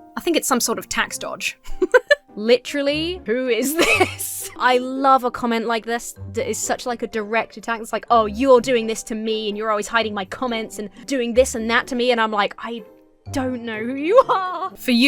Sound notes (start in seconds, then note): 1.6 laughs; 1.8 splutters